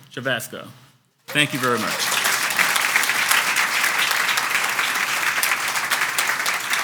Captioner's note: audience applauds